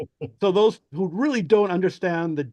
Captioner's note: laughs